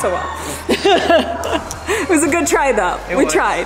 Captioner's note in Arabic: كريستال يضحك